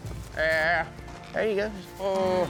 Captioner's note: calling